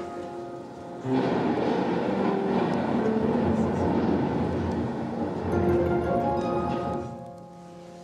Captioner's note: long thunderclap